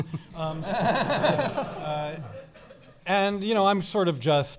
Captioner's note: laughing